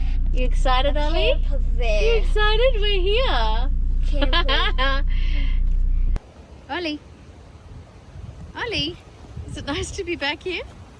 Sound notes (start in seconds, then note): 4.0 laughs